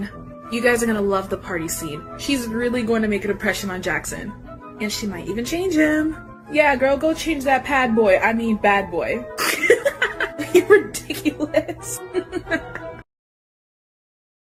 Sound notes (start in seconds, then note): 9.3 the laughing continues